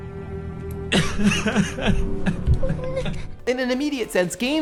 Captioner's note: crying